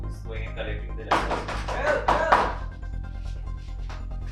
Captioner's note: someone bangs door profusely